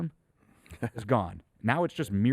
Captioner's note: chuckles